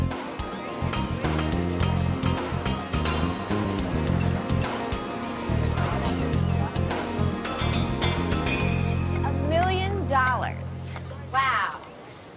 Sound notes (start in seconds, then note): 4.3 chatter